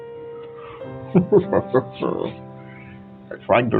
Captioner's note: Ryan Gosling laugh